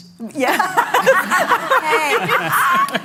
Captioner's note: laughter